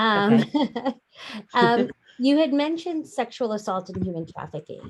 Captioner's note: chuckles